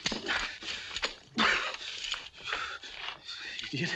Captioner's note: panting